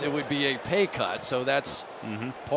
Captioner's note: cheering